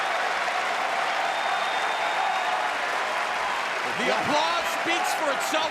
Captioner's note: crowd cheering